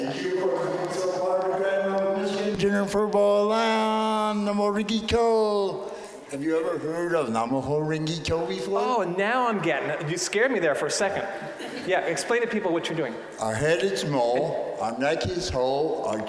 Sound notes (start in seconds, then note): 11.2 audience laughing